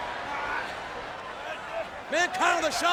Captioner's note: wrestlers grunting